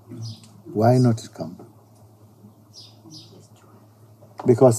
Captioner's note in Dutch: fluisterende stem in sangha